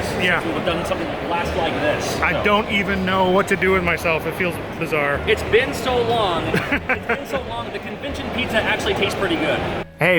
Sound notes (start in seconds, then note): 6.4 laughs